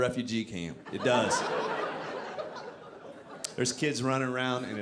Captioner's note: audience laughing